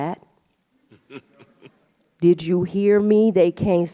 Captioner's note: laughs